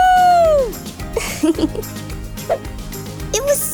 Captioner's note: chuckles